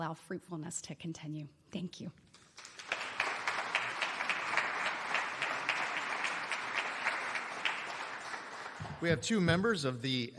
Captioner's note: applause